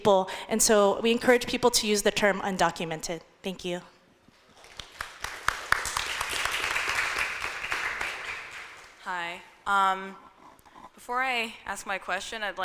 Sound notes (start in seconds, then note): 4.5 audience applauding